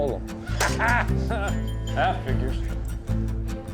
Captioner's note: laughing